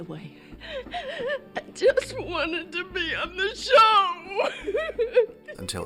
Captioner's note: sobs